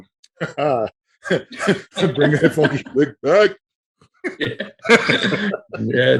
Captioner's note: laughing